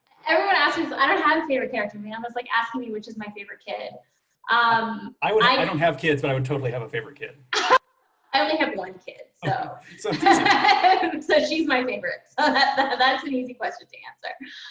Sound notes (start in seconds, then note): 9.4 laughs